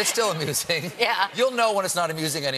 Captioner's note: laughter